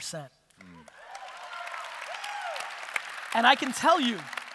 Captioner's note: audience applause